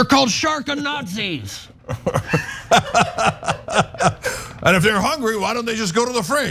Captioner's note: laugh